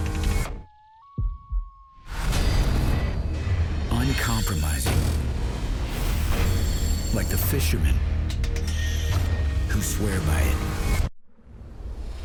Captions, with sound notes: - [Voiceover] Uncompromising. Like the fisherman. Who swear by it.